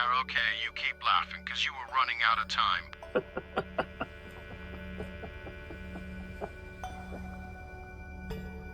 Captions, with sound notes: You keep laughing because you were running out of time. [Lawson laughs] [calm music]